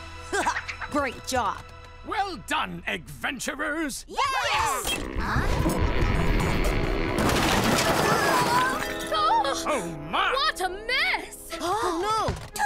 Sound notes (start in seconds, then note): 0.3 chuckling; 3.8 cheering